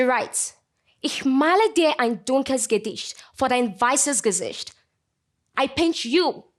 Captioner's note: speaking German